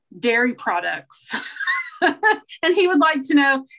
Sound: chuckles

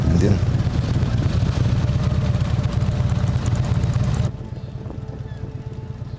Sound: motorcycle engine idling

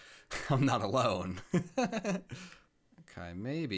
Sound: chuckles

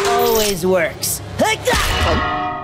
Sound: grunting, thudding

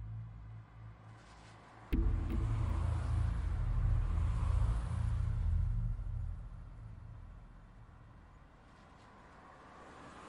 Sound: traffic

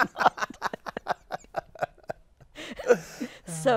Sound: laughs

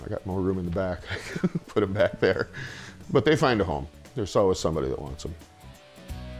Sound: laughs

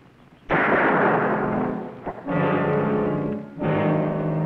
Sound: gunshot booming; ominous music

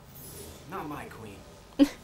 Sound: laughs

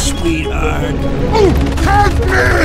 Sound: The I-185 gasps

